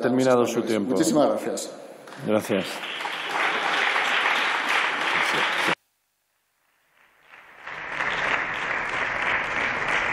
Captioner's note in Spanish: Aplausos